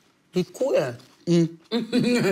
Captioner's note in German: Lachen